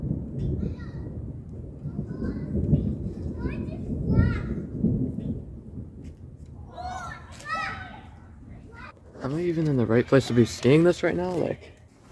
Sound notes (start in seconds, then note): 0.0 thunder gets quieter; 6.5 kids in the background